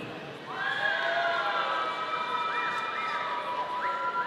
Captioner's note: audience cheering